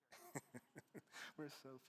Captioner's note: chuckles